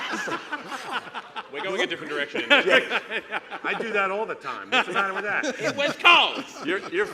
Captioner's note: laughter